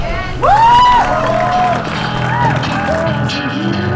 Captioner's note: crowd Cheering